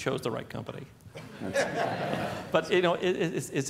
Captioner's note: laughter